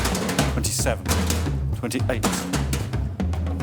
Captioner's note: cans thudding